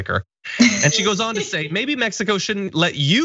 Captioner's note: laugh